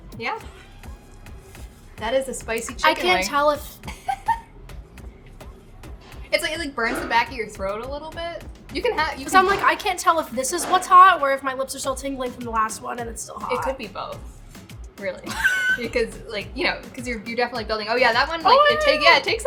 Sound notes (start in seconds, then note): 3.7 laughing; 15.2 laughing